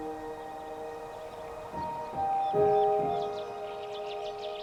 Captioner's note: bird twittering